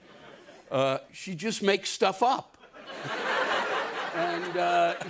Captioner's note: laughter